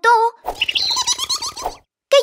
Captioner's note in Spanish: Sonido de pájaro